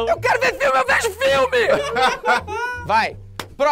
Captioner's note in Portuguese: risadas